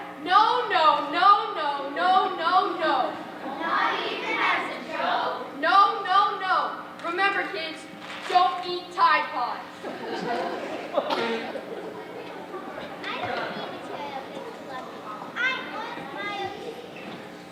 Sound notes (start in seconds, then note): 9.8 audience laughing